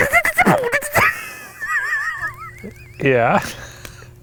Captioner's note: beatboxing; all laughing